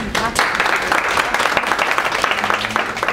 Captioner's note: applause